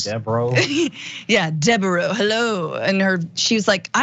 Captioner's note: laugh